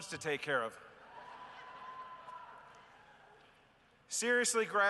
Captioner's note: cheering and laughter